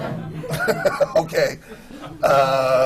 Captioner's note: laughter